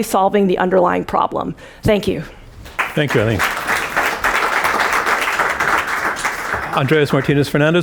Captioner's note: applause